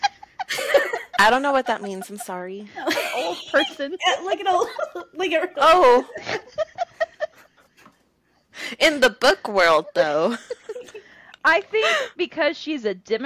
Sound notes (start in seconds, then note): 5.1 laughter; 7.4 laughter